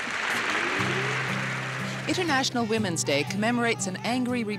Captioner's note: applause